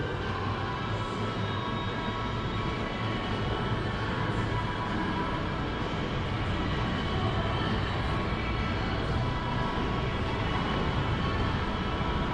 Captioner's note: ambient mall noises